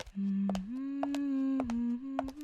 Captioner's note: humming